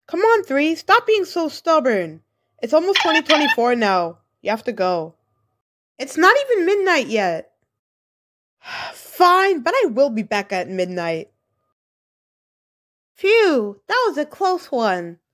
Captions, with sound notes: Come on Three stop being so stubborn! It's almost 2024 now, you have to go. It's 3:33 pm in the afternoon shut your triangle ahh lookin- It's not even midnight yet! *Sigh* fine but I will be back at midnight Phew that was a close one!